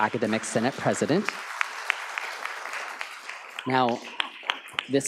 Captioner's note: audience applauds